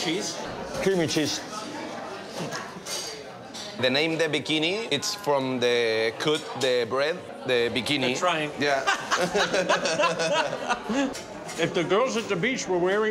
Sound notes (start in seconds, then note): 8.8 laughs